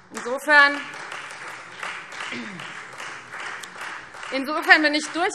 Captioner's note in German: Beifall Freie Demokraten